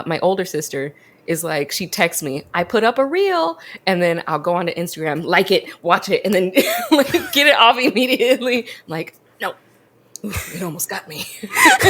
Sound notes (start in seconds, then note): 6.9 laughs